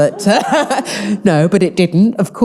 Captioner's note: all laughing